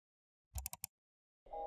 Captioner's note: 𝘥𝘰𝘶𝘣𝘭𝘦-𝘤𝘭𝘪𝘤𝘬